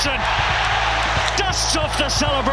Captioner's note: crowd erupts